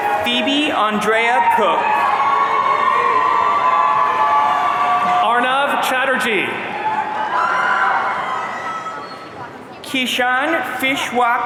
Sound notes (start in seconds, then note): 2.3 audience cheering